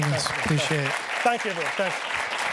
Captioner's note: applause